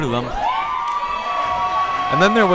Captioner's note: crowd cheers